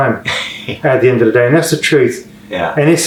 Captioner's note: laughing